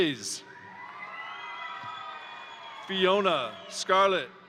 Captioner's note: crowd cheering; crowd applauding